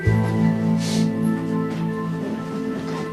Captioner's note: sniffles